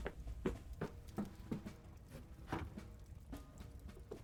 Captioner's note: footsteps, rustling